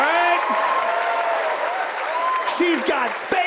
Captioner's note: audience laughs and claps; audience laughs and cheers